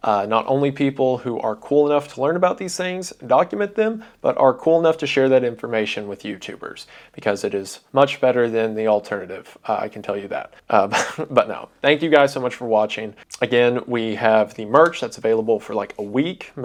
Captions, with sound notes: not only people who are cool enough to learn about these things and document them, but are cool enough to share that information with YouTubers, because it is much better than the alternative. I can tell you that. [chuckles] But, no, thank you guys so much for watching. Again, we have the merch that's available for, like, a week.